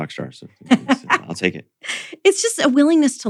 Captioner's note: laughs